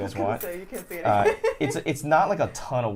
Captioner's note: laughs